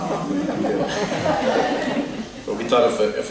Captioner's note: laughter